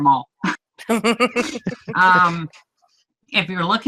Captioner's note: laughs